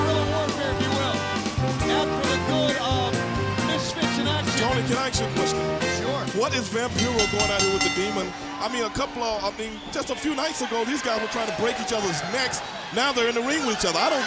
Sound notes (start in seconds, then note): 9.6 bell ringing